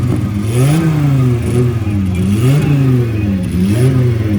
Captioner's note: car engine revving